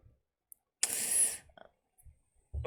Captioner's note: sharp inhale